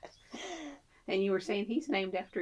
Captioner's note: laughs